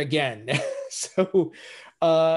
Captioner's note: laughs